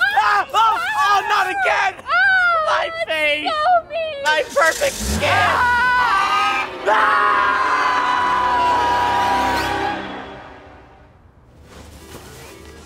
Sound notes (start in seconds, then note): 6.5 George honking; 7.6 Herbert and Haley scream; 7.6 dramatic music